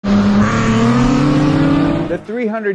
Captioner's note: engine revving